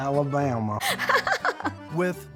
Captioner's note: chuckling